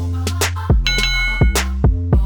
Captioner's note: upbeat music; boxing bell ringing